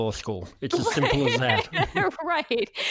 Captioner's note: laughs